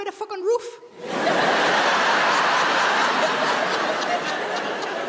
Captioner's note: audience laughs